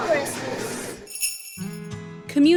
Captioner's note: bells jingling